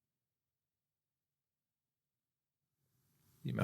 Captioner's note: silence